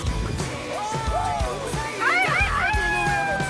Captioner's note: shouting